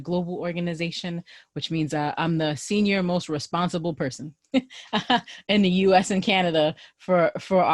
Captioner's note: laughter